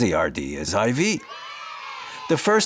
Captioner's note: kids cheering